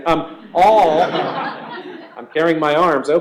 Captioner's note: laughter